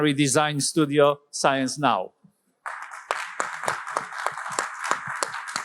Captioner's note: applause